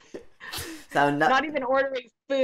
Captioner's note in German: Beide Frauen lachen